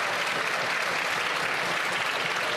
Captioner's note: some Applause